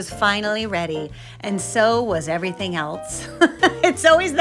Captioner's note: laughs